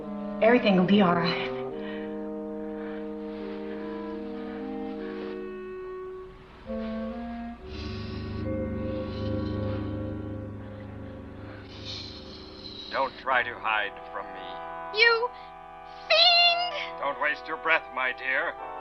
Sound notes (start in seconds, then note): 12.8 man on Radio; 14.5 woman on Radio; 17.5 man on Radio